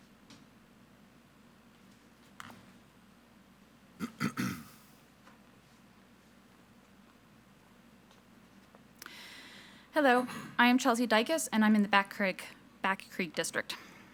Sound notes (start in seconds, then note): 4.0 clearing throat